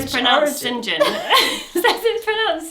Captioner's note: both laugh